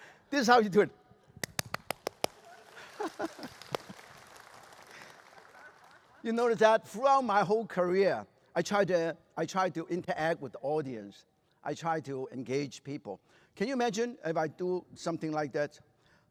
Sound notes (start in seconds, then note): 1.4 claps enthusiastically; 1.4 applause; 2.7 chuckles